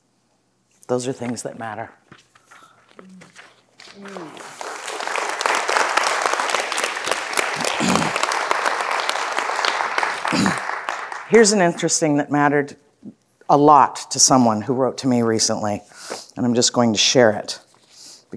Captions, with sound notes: Those are things that matter. (audience applauding) Here's an interesting that mattered a lot to someone who wrote to me recently and I'm just going to share it